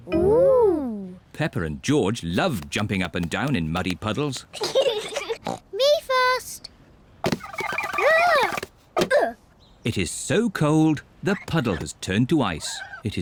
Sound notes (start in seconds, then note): 4.7 snorts